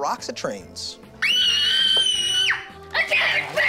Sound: screaming

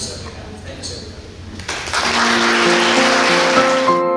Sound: clapping

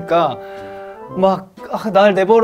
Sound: inhale

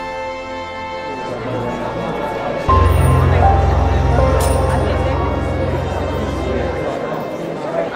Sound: crowd murmuring; electronic tones

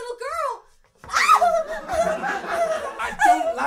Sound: screams

